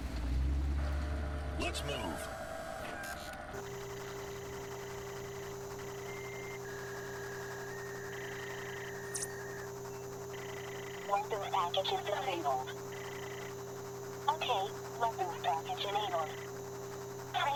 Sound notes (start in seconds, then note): 4.1 interface whirring; 8.8 interface beeping; 11.8 automated Voice